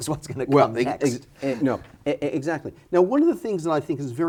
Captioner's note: chuckles